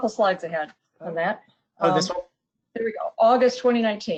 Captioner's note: talks faintly